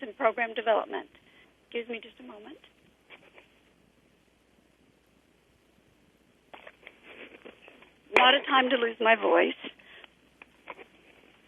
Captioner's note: pause